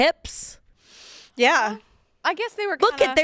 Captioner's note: exhales